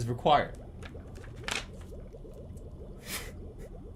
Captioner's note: flips page; chuckles softly